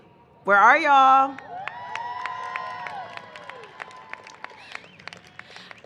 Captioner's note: cheering and applause